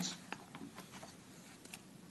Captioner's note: rustling of papers